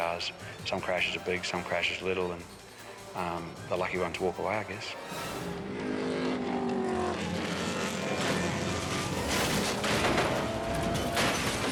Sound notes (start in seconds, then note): 5.1 suspenseful music; 5.2 cars grinding; 8.1 car imploding; 9.5 dramatic music; 11.1 debris crunching; 11.1 dramatic music